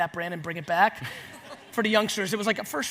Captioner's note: audience laughs